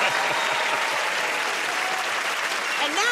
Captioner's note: laughs; cheers and applause